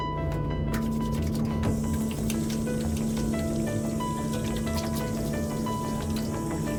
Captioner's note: water splashing